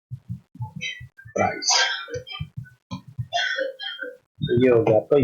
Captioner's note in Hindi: गला साफ़ करने की आवाज़